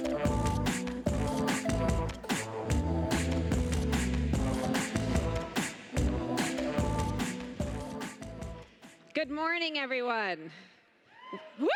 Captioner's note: applause